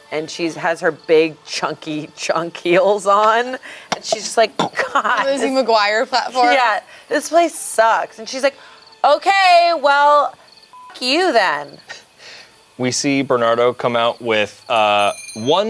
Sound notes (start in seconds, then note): 10.7 beeps